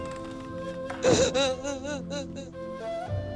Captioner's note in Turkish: Hayme ağlıyor